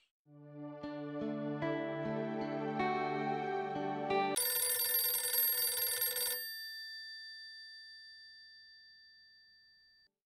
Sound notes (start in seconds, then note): 0.3 hopeful music playing; 4.3 phone ringing